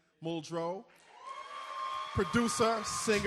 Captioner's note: audience applauding